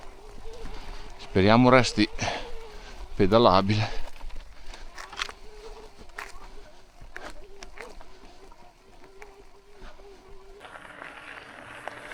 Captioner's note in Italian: sbuffare